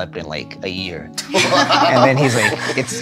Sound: all laugh

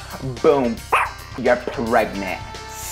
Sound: dolphin sounds; dog barks

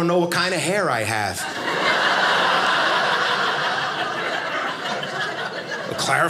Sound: audience laughing

